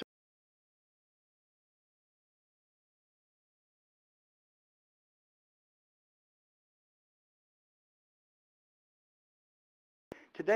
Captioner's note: audio Cut